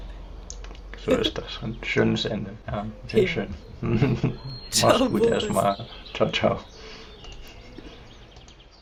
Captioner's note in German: gelächter